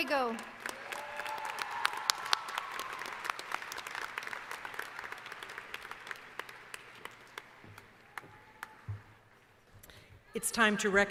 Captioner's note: cheering